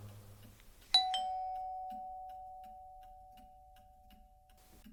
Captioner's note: ding dong